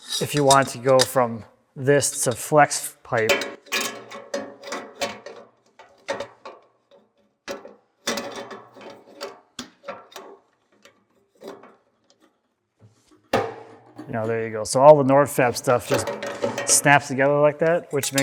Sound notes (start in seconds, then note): 0.0 flex hose clinking; 2.0 flex hose clanking